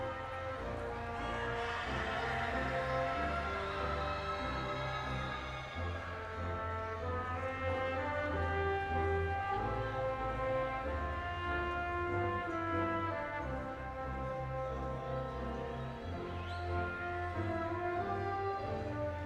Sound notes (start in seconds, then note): 1.9 audience cheers